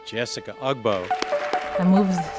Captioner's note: audience applauds